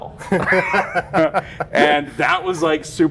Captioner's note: both laughing